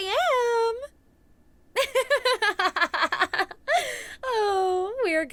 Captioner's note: laughing